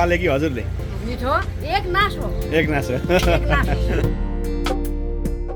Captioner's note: laughter